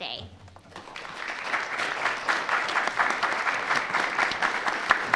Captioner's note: attendees applauding